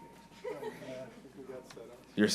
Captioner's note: laughing